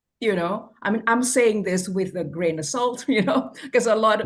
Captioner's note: laughs